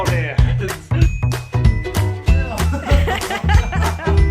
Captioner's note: laughter